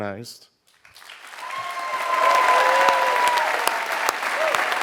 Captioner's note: applause